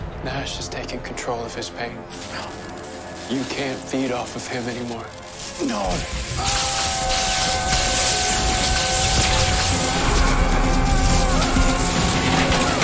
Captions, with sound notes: Nash is taking control of his pain you can't feed off of him anymore. No! [Screaming]